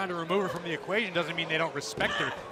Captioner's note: crowd cheering